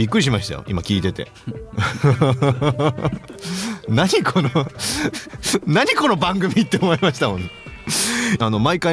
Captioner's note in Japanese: 笑い